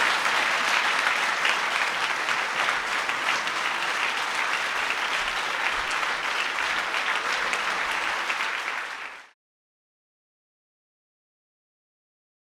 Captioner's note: applause